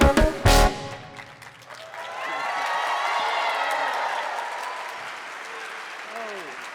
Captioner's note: audience applauding and cheering